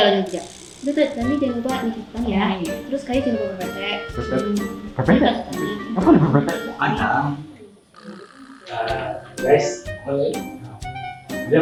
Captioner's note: chatter